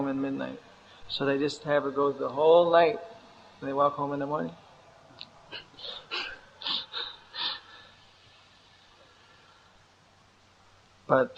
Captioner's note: chukcles